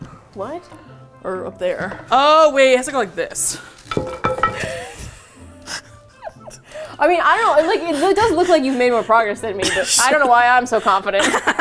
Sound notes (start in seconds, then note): 3.8 wood clunks on floor; 6.3 both laugh; 9.5 laughs